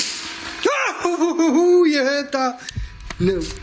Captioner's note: yells